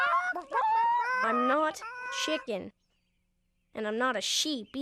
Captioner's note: clucking